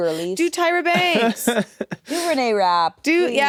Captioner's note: laughs